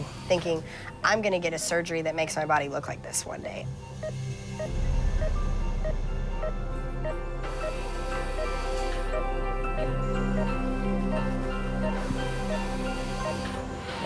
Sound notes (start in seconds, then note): 6.1 dramatic instrumental music; 7.9 machines beeping